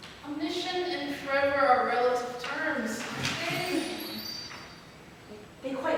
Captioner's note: twinkling sound effect